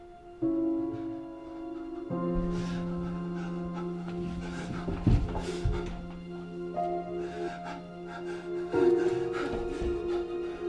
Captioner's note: heavy breathing. crying